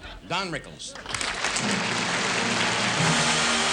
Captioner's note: applause